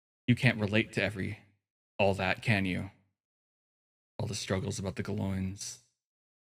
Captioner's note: none